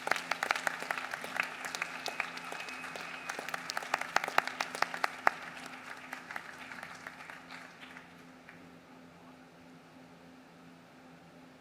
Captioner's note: applause